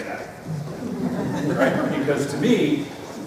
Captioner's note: laughter